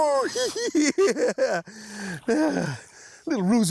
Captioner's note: laughs